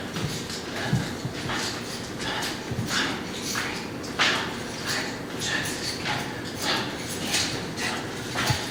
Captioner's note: whispers